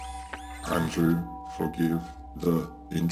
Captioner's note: soft ominous electronic music; Kellogg whirring